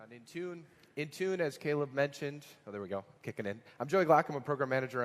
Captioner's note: off microphone